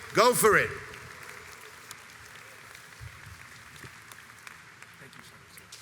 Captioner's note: audience applauds